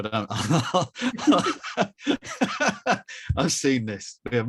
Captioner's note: laughs